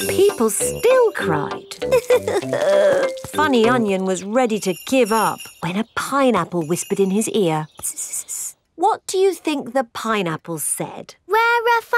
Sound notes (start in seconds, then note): 2.1 crying